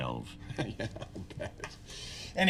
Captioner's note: laughing